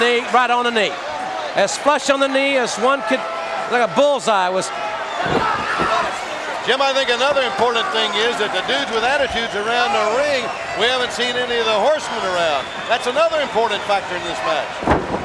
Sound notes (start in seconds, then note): 6.8 Sting exclaiming